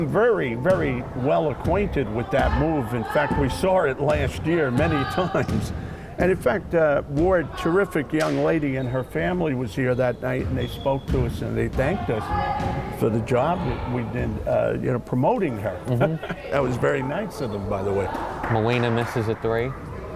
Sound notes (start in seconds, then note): 15.8 laughing